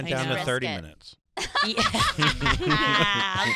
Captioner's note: laughing